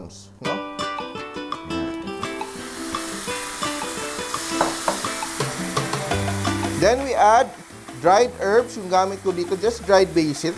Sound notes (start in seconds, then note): 2.0 sizzling sound